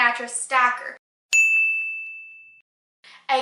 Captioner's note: ding